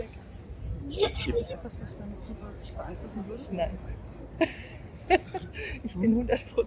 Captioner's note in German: lacht